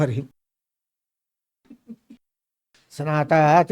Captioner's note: laughs